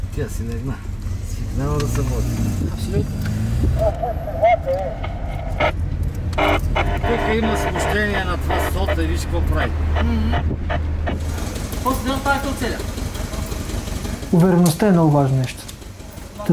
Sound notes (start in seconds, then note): 3.8 radio noise